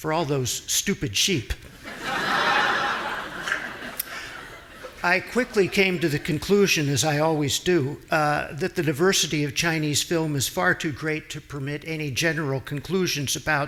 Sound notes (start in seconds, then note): 1.7 audience laughing